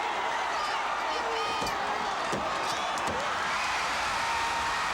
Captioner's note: blows thudding; crowd cheering; hand smacking; crowd cheering